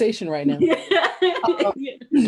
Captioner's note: laughs